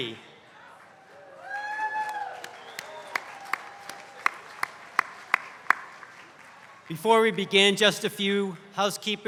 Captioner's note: applause